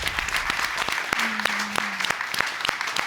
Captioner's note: audience applauding